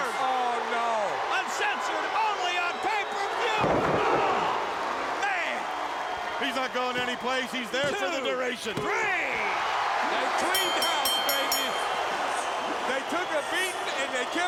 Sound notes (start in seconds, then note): 9.4 crowd cheering; 10.4 bell rings